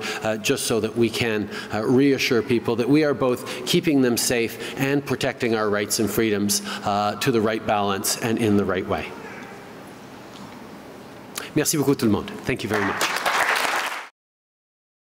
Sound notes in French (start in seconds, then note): 12.6 Applaudissements